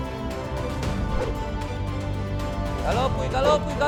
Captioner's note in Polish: odgłos cięcia powietrza szablą